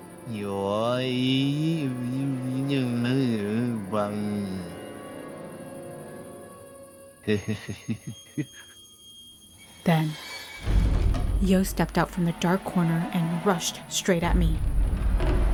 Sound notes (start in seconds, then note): 7.3 laughter